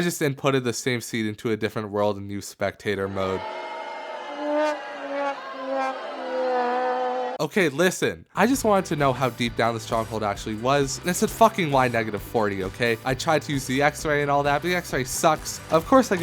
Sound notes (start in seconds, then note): 4.2 trombone noises; 5.7 boos